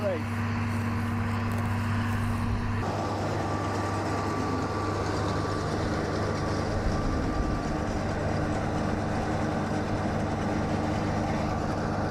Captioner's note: tractor/baler sound